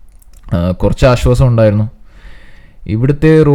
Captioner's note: phew